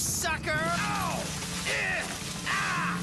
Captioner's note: grunting